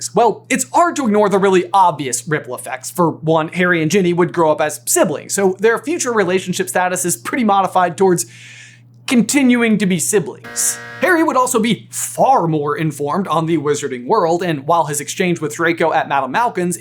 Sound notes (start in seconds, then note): 10.4 buzzer noise